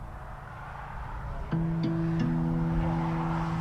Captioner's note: highway noises